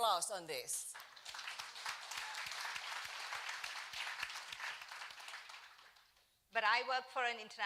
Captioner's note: applause